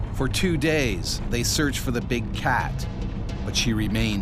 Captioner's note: voiceover